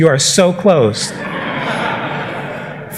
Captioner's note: laughter